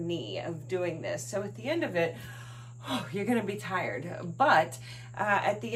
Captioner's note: huffing breath